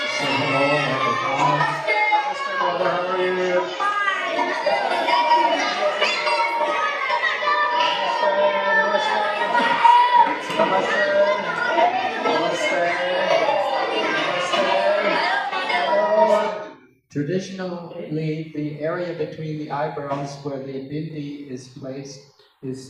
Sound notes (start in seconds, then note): 10.9 more cheering